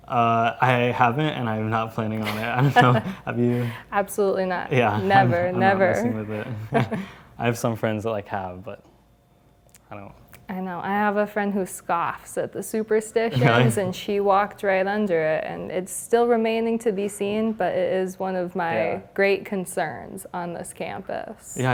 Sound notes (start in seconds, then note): 1.6 laugh